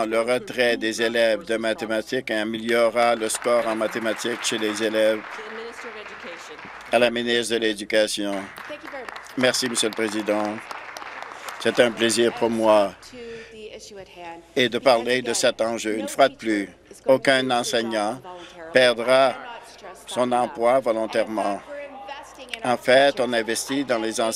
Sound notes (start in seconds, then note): 5.6 applause